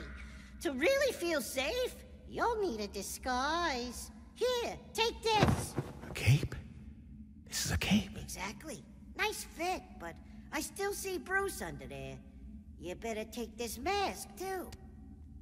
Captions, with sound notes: To really feel safe, you'll need a disguise. Here, take this. [fabric flutters] - A cape? This is a cape. - Exactly. Nice fit, but I still see Bruce under there. You better take this mask too.